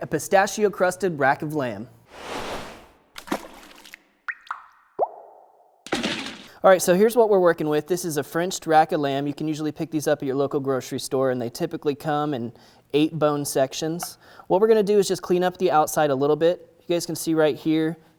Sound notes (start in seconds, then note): 3.1 splash; 3.1 dripping; 5.9 splash